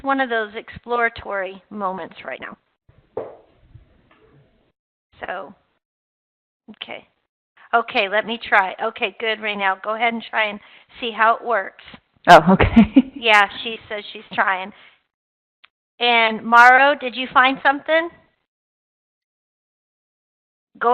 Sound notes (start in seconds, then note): 12.5 chuckling